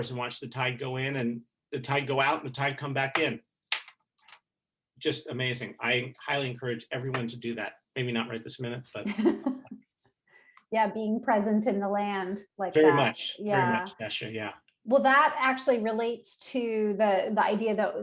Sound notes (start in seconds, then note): 8.1 murmuring; 9.0 laughing